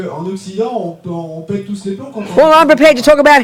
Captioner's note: speaking in French